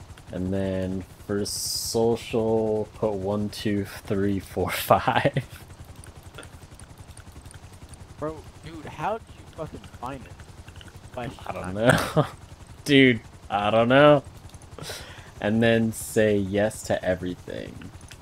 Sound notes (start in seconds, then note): 11.1 laughs